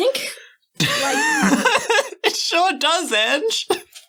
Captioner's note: laughing